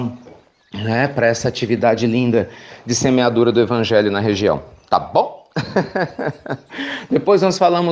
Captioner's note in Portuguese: Risos